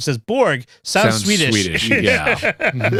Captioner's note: laughter